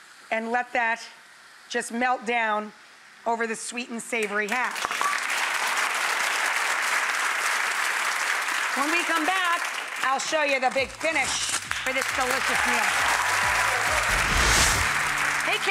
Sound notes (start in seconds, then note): 4.9 audience applauding; 13.0 audience applauding